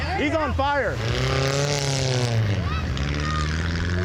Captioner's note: cars speeds